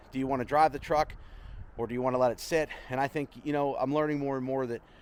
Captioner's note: none